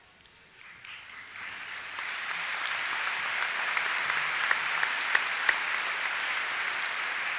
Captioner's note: applause